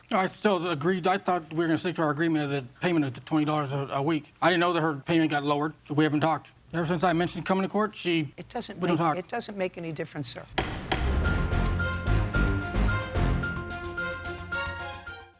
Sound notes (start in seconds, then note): 10.5 gavel bangs; 10.5 dramatic music